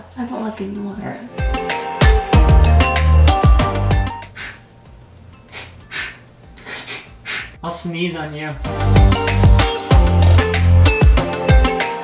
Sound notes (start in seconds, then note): 1.3 upbeat music; 5.4 sniffing; 8.6 upbeat music